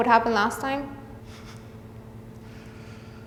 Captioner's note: soft chuckling